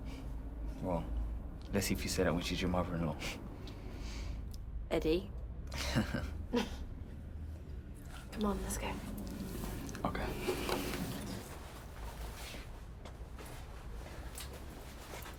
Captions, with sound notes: - Well, I guess if you say, I mean, she's your mother-in-law. - Eddy. (chuckles) Come on, let's go. - Okay.